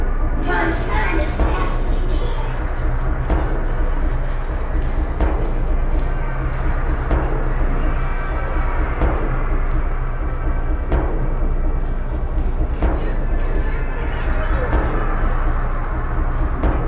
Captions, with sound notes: Run Run as fast as you can! *Footsteps grow faint* Come out, come out wherever you are! Come out, come out wherever you are!